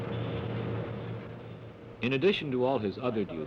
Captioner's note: machines whir